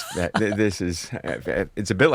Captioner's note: laughing